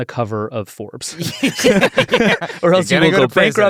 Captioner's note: all laughing